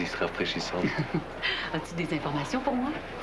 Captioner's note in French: Rire